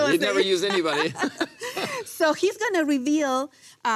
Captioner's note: laughs